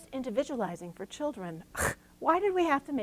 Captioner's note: scoffing